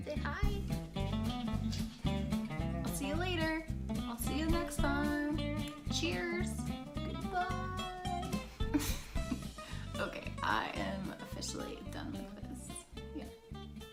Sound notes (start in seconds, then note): 8.2 laughs